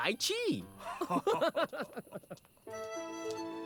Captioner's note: both laugh